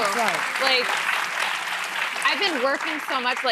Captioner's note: audience applauding